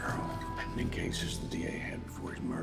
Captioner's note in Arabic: همسات